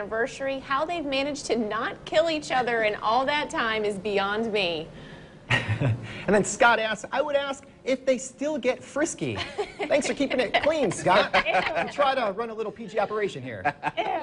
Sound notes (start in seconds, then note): 1.4 laughing